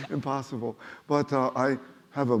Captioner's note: laughing